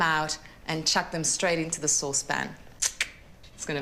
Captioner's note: tongue clicks